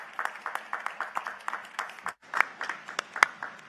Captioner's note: applause